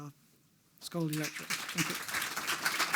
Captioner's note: audience applauding